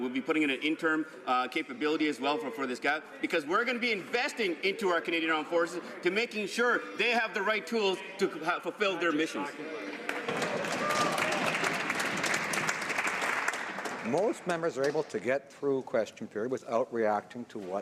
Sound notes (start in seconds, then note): 15.2 some Applause